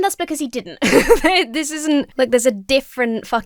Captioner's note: laughs